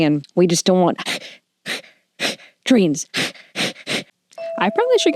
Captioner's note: heavy breathing